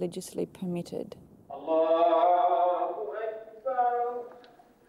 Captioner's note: Arabic spoken audio